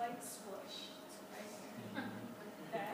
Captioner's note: class laughs